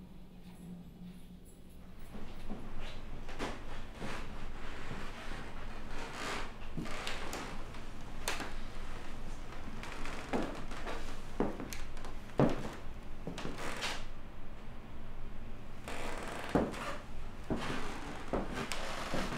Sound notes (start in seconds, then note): 6.5 floorboards creak; 12.3 footsteps tap on floor